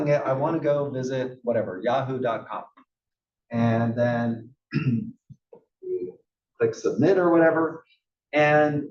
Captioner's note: cough